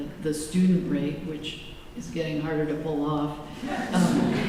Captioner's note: laughter